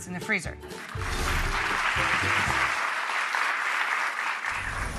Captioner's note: crowd applauds